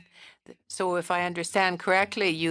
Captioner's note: speaking French